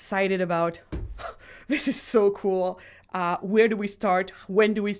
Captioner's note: sighs